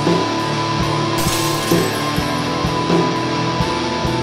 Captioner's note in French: Bruit de verre brisé